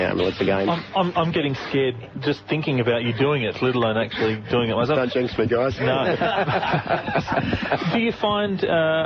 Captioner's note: background snickering; loud group laugh